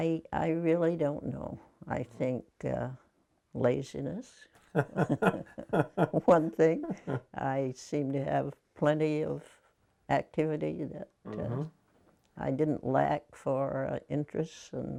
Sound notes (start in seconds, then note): 4.7 laughing